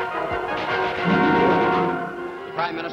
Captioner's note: radio report in English